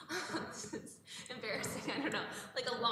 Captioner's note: laughs